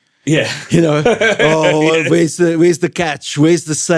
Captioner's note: laughing